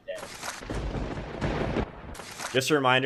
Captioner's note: lighting striking